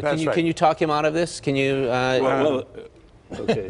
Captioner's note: laughter